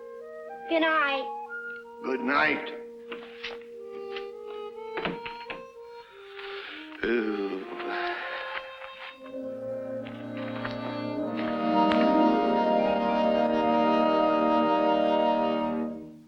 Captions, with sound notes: - Goodnight. - Goodnight. (gentle music) (Colonel sighs) (gentle music)